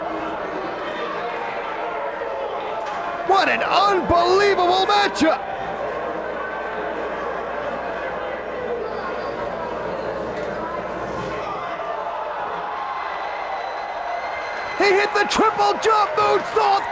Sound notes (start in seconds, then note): 11.6 spectators cheering and applauding